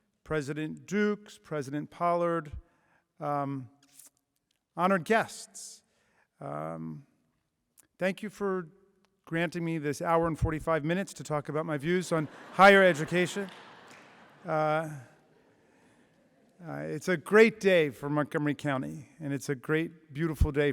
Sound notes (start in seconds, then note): 15.2 laughter